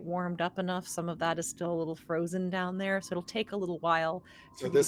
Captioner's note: none